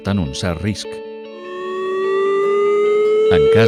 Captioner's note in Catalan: so de sirena